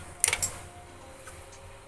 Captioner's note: clicking